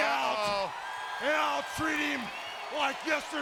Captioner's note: audience cheering